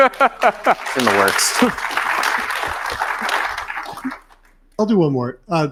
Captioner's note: laughing; audience applauding